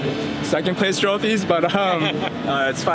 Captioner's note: laughs